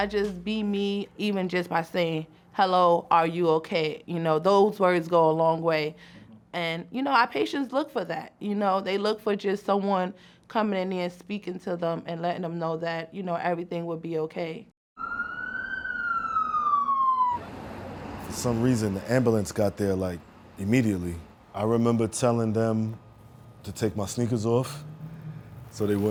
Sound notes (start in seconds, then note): 14.9 siren sounds